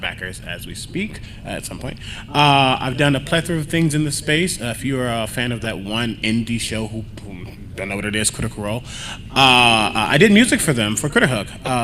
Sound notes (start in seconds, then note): none